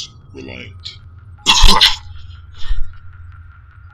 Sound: coughs

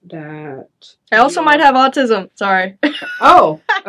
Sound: chuckles

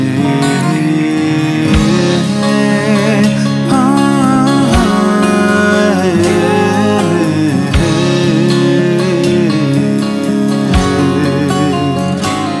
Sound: extensive vocal humming

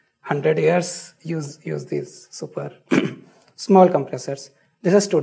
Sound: clears throat

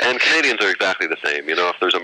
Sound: laughter

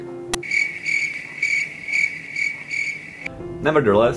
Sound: crickets chirping

